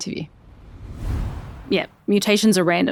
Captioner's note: air whooshing